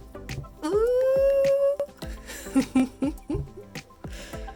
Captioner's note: laughs; upbeat music